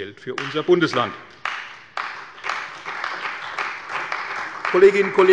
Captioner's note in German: Beifall bei der CDU und dem BÜNDNIS 90/DIE GRÜNEN